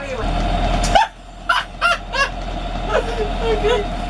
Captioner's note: laughter; uncontrollable laughter